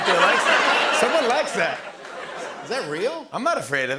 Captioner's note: laughter